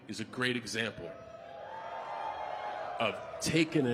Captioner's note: audience cheering